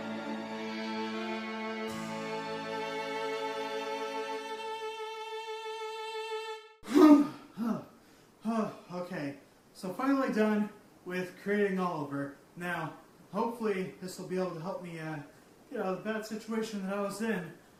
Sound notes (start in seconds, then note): 7.9 breaths of exhaustion